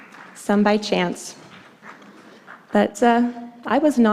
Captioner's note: applause